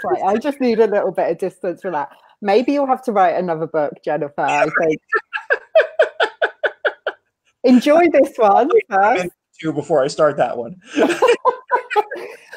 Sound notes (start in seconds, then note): 4.5 laughs; 10.9 laughing